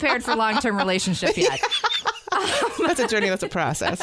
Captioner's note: laughs